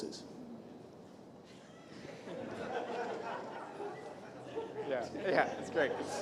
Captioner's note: laughter